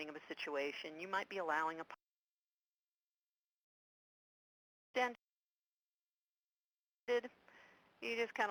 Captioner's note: audio cuts out